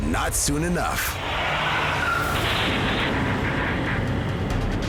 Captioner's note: tires screeching